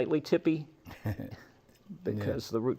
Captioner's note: laughs